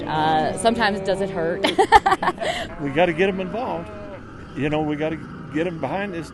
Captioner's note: laughs